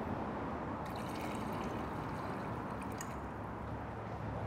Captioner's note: liquid splashes